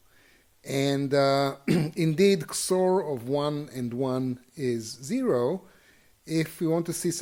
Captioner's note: cough